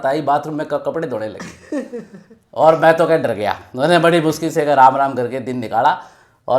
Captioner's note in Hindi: हंसी